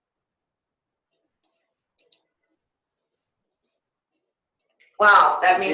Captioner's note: silence